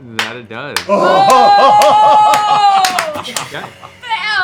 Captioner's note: cheering